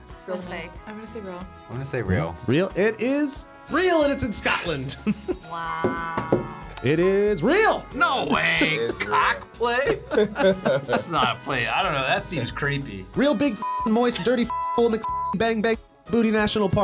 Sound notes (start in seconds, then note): 13.6 beep